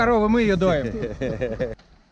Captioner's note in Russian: смеются